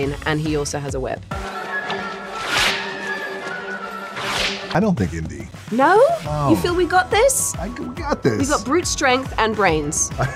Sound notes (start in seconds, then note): 1.3 suspenseful music; 2.4 whipping